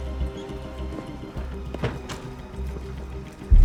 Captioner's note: thuds